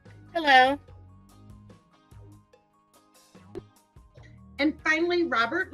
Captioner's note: silence